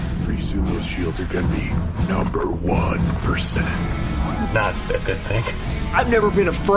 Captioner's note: laughing